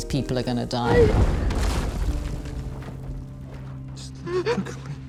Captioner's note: rock falls